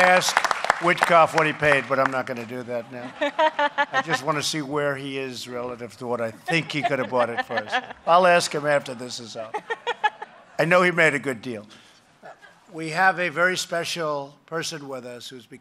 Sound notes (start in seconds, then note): 6.4 laughter